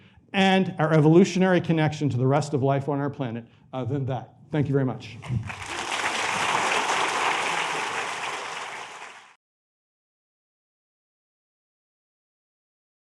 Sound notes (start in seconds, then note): 5.2 applause